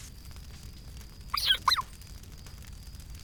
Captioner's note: toy squeaks